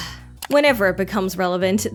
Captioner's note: sigh